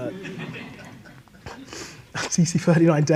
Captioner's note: audience laughs